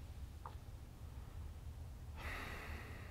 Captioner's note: sigh